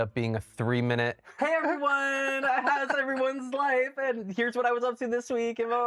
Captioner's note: fake cheery